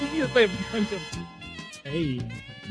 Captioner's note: speaking In Foreign Language